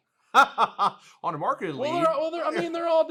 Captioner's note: laughs